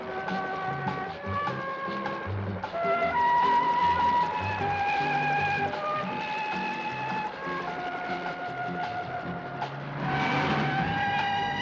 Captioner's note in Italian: urlo